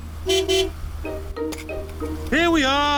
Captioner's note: honks horn